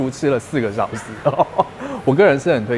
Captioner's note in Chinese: 笑聲